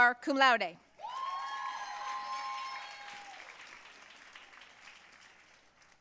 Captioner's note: audience cheering and applauding